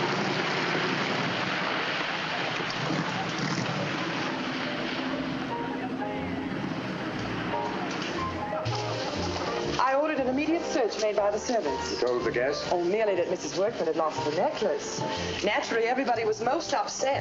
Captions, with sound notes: [instrumental music] [indistinct chatter] I ordered an immediate search made by the servants. You told the guests? Oh, merely that Mrs. Workman had lost her necklace. Naturally, everybody was most upset.